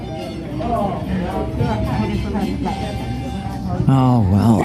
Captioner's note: people chattering